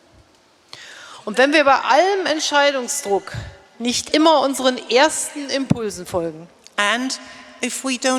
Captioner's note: speaking in German